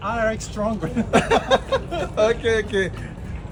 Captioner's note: laughing